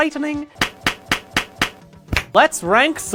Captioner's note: clap clap clap clap clap CLAP